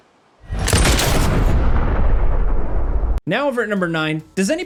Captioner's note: gun shoots